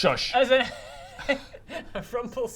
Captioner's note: laughs